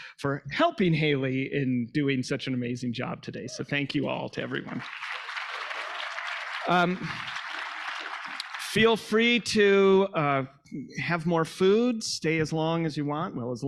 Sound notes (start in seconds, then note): 5.8 audience applauding